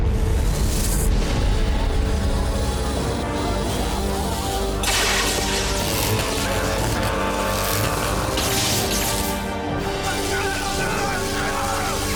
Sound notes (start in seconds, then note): 4.6 water run